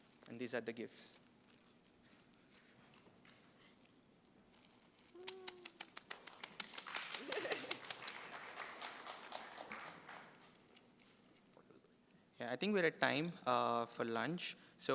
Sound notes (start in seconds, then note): 5.5 applause